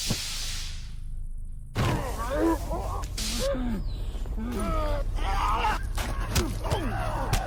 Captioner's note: muffled screams of fighters